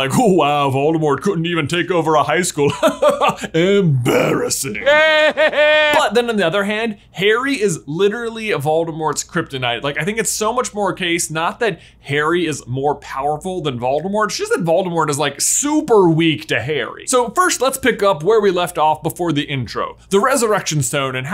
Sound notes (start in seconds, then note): 4.6 laughs; 4.9 Voldemort laughing